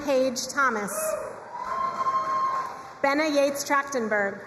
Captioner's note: crowd cheering and applauding